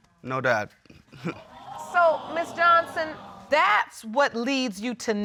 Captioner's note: audience gasping